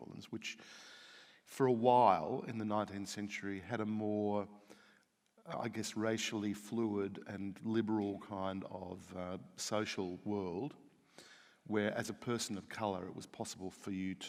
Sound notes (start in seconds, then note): none